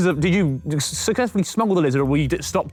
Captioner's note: none